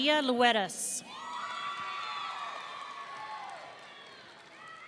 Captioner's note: audience cheering